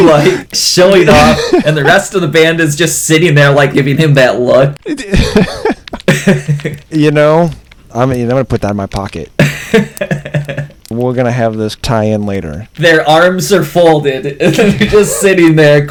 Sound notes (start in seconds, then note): 1.0 laughs; 4.8 laughter